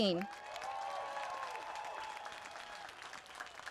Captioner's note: applause